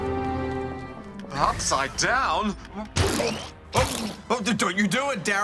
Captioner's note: pukes